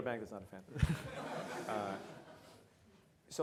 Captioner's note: audience laughs